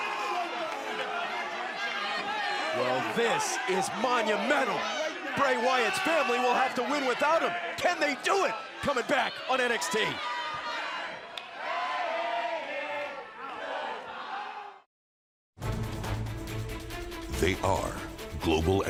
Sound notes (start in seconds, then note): 13.7 crowd cheering